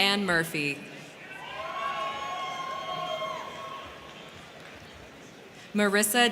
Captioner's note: crowd cheering; crowd clapping